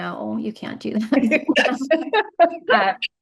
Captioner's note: chuckles